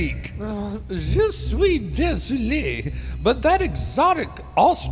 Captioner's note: slurred french